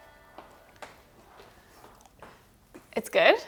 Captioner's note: romantic music; footsteps tapping